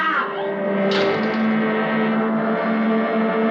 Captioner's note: screams; elevator door rattles